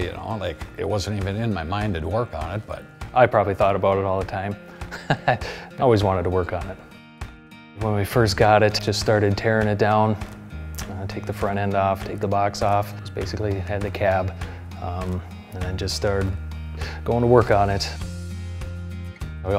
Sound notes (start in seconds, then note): 4.8 laughing